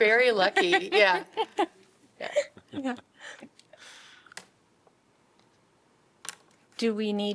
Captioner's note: laughter